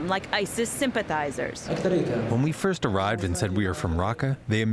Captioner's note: through translator